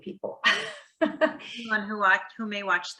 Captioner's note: chuckles